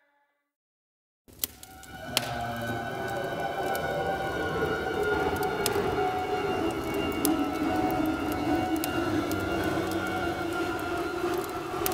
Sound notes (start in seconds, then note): 1.2 fire crackling; 8.8 eerie music